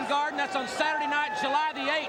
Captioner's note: crowd chatter